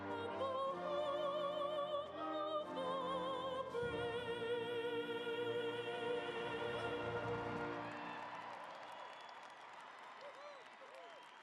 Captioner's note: cheering and applause